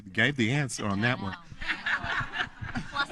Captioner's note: audience laughing